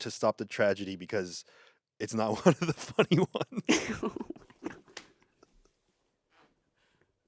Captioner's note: laughs